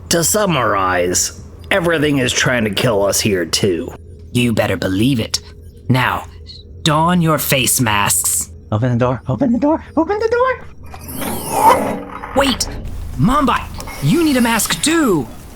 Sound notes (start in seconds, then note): 12.4 door opens